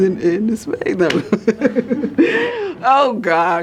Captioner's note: laughing